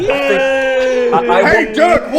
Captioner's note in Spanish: todavía llorando